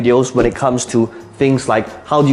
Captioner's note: air whooshing